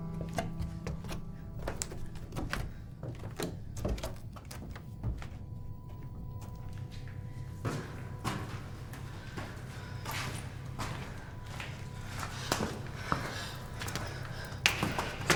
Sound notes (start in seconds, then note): 9.0 steps approaching